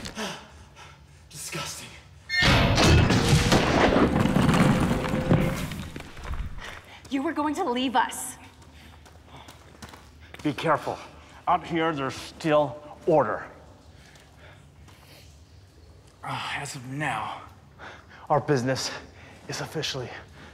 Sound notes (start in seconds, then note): 0.0 grunting; 1.3 creaking